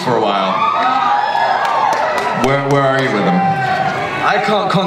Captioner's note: audience cheers